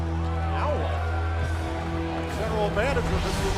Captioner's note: crowd chatter